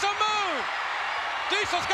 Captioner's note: spectators cheering